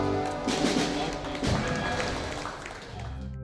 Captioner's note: music stops; applause